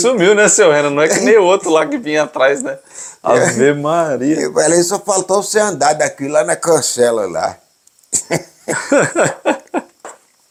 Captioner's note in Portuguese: risos; risos